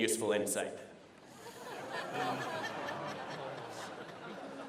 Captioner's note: laughter